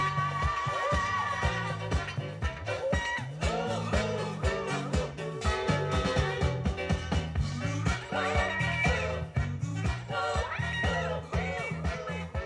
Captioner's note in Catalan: Aplaudiments